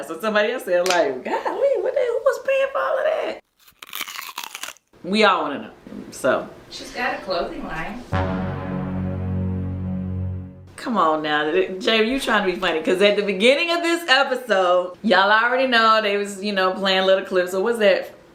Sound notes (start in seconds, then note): 3.5 chips crunch; 8.1 suspenseful music